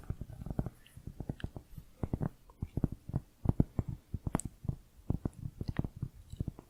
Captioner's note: tapping on cork